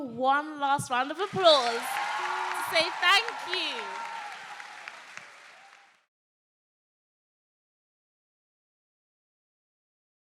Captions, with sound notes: one last round of applause to say thank you. (audience applauding) (audience cheering)